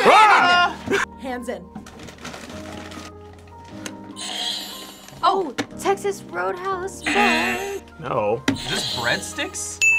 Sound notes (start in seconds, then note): 4.0 buzzer rings; 7.0 buzzer; 8.6 buzzer rings